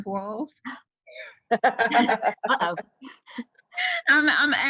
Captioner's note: laughter